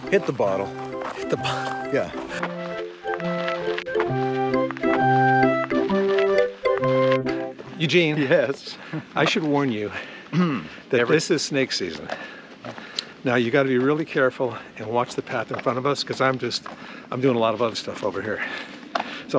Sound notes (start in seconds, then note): 1.2 laughing